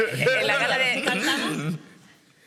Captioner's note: laughs